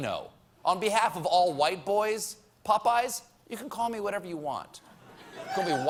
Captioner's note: laughter